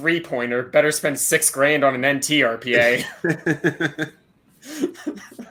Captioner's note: laughs